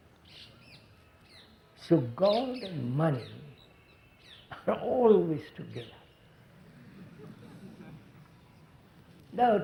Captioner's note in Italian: Risate